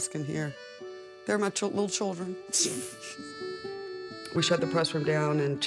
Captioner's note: chuckles